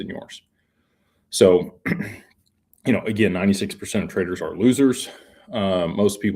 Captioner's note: clears throat